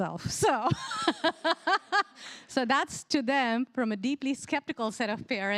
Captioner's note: laughs